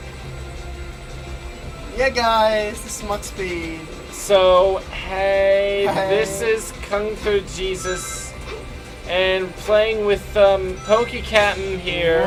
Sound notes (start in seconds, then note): 1.9 in a stereotypical gay voice